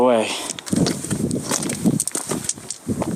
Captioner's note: rocks crunching underfoot